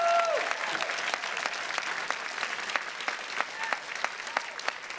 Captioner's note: audience cheering; audience applauding